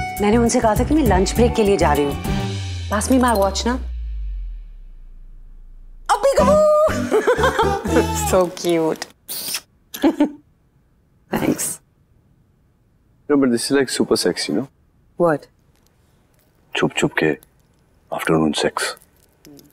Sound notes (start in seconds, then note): 6.8 laughs; 9.2 kisses; 9.9 laughs